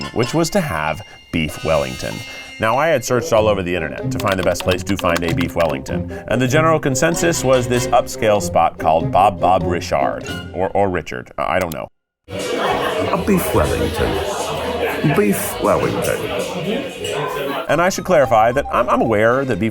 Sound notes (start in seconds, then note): 2.2 gentle music; 4.2 graphics clicking; 11.6 graphics clicking